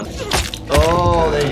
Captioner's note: spurt, spurt